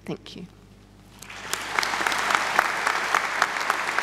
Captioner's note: crowd claps